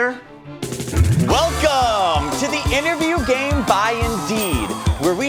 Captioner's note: crowd cheering